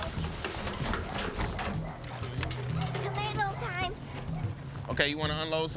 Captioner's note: distant dog barking